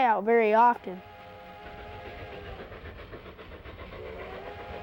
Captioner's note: train chugging